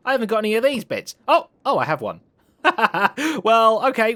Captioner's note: laughs